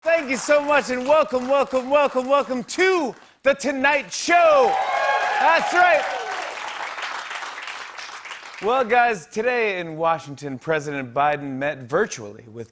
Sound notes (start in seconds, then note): 4.3 cheers and applause